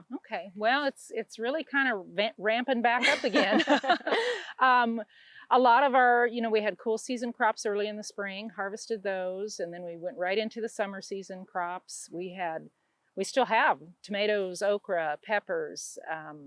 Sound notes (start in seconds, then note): 3.0 both laughing